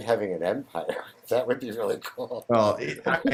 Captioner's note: laughs